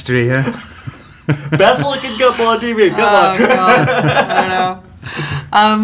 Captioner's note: laughing; laughs